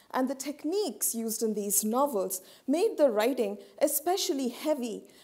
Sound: none

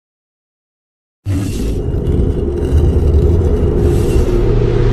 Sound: dramatic sounds

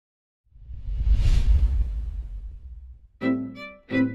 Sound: whooshing

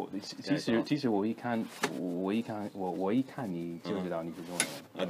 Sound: mandarin

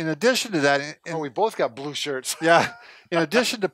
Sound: laughs

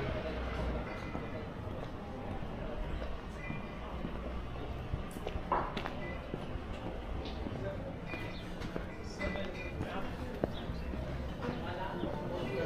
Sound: people chattering; people chattering

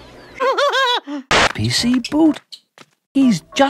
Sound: skids along

